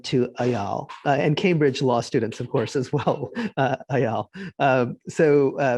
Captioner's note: giggling